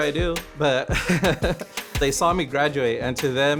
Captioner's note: laughing